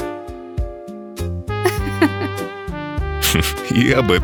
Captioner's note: laughs